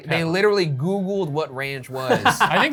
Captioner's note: laughing